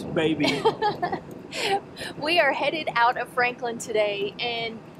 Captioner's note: chuckles